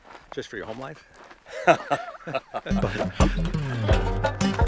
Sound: laughing

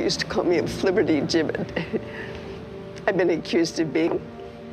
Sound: chuckles

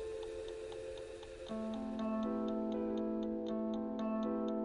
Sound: clock ticking

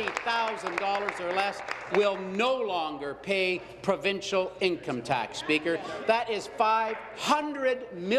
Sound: applause

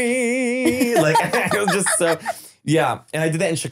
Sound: laughing

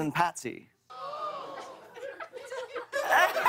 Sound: audience gasps; laughter

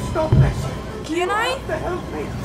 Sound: pounding on glass

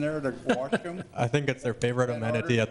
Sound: laughing

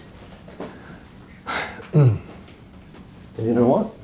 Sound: clears throat

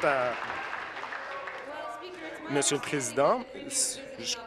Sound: applause

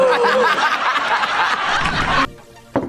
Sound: laughs; gasps

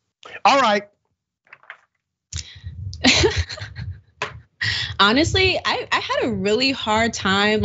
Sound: laugh

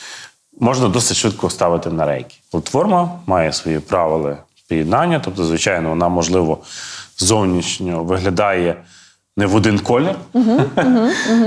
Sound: laugh

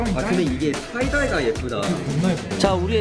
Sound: chatting

